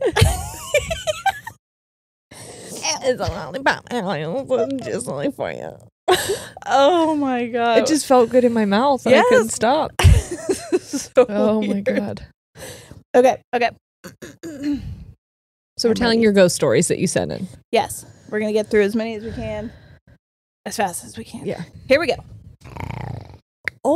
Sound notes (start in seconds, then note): 0.0 both laughing; 14.1 clears throat; 22.7 purrs